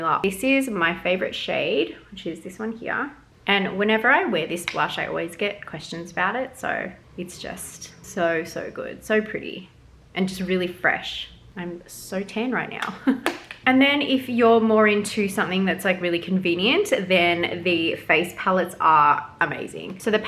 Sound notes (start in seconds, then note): 13.0 chuckles